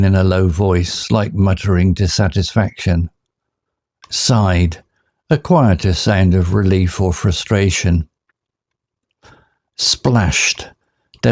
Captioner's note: a quieter sound of relief or frustration